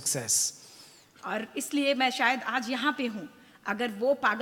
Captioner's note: speaks foreign language